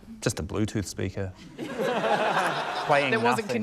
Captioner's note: laughter